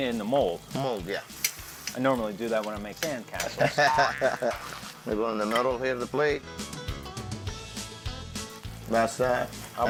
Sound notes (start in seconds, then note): 3.4 chuckling; 6.4 upbeat music